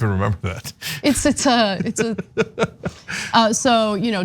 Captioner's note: laugh